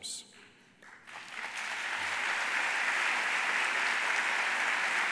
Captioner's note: audience applauding